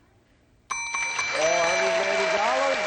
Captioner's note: dinging